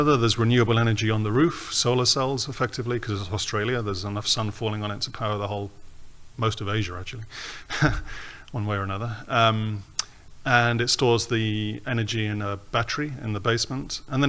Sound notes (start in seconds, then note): 7.7 laughs